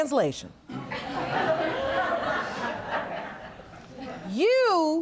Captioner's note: audience laughs